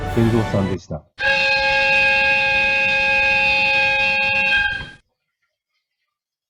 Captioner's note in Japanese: 警笛の音